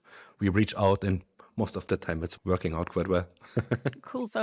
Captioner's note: laughs